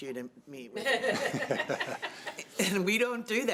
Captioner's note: chuckling